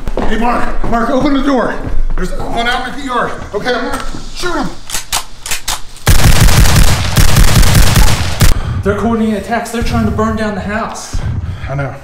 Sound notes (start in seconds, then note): 6.0 gun firing